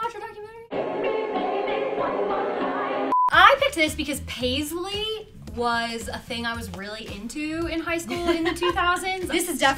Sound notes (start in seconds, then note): 3.1 beep; 8.0 laughs